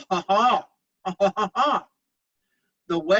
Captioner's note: laughs